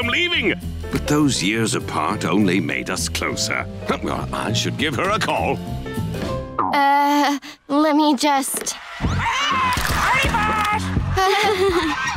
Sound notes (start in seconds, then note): 9.0 squawking; 9.7 laughing